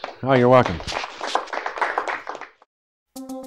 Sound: applause

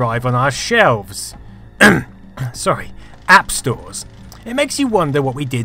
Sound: ahem

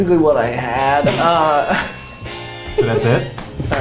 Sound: bell ringing; sniggering

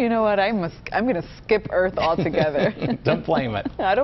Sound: laughter

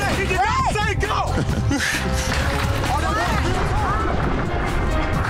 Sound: laughing; urgent music; water splashing

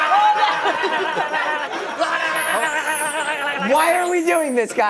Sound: laughter

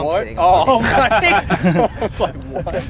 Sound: laughter

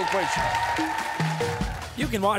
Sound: cheers and applause

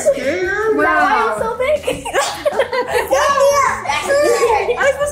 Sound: group laughing

